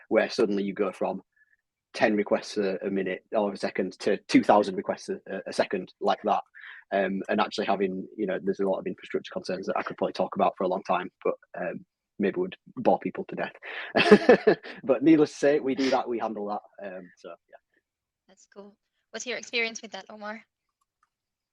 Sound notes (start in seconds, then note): 13.3 chuckles